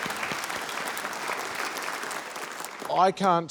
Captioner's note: applause